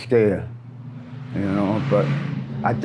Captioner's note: traffic passes loudly